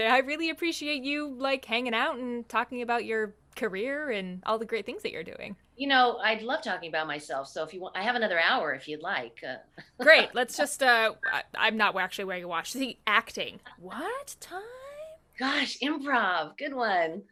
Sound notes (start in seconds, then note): 9.8 laughter